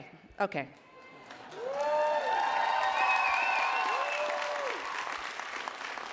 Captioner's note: attendees cheering and applauding